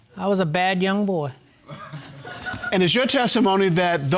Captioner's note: audience laughing